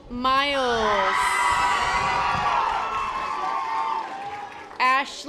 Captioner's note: audience applause